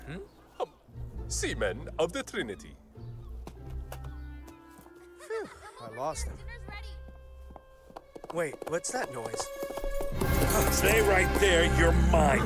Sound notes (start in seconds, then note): 6.4 hooves clatter